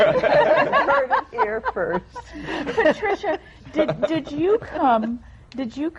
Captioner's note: laughter